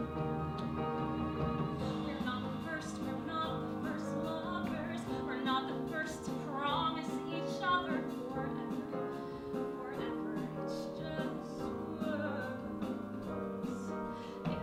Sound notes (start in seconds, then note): none